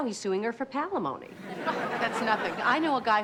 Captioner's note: audience laughs